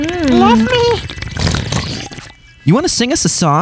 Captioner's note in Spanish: Sonidos de sorbido